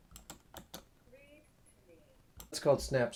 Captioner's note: mouse clicking